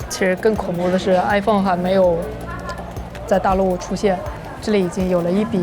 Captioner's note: speaking foreign language